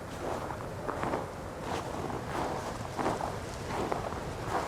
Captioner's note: wind whipping; snow crunching